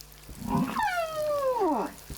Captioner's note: grunting, squeaking